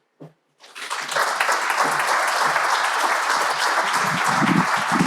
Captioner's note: crowd applauding